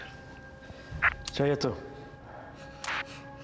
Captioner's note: speaking Slavic language